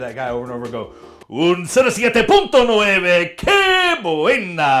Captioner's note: speaks in Spanish